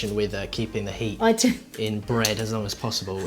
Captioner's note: laughs